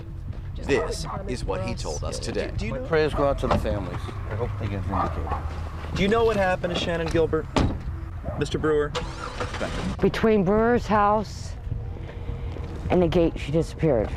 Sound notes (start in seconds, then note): 7.5 door slams; 8.8 car ignition starting